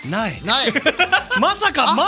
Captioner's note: giggle